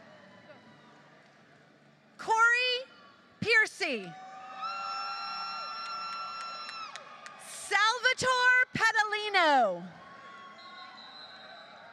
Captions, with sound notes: Cory Piercy, [APPLAUSE], Salvatore Padolino.